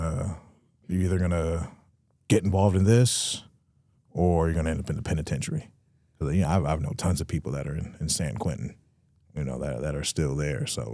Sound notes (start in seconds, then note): none